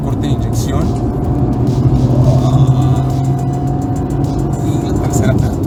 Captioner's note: engine reving